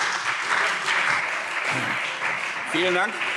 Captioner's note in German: Beifall SPD